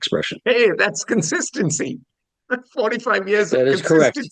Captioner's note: laughs